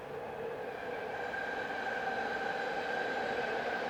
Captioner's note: train engine roaring